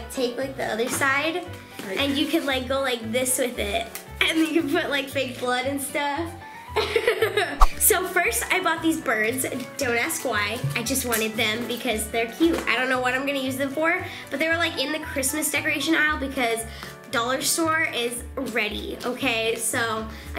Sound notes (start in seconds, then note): 6.8 laughing